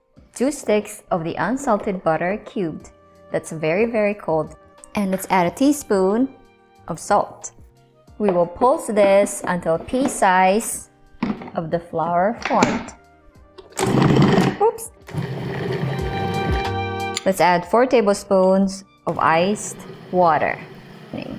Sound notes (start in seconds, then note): 11.2 lid thuds; 15.1 processor running; 19.1 processor running